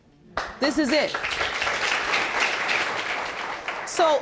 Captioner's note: audience applauds